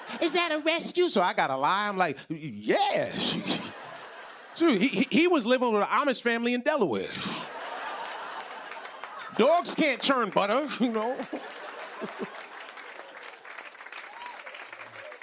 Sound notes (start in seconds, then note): 3.1 laughter; 7.3 laughter; 11.6 applause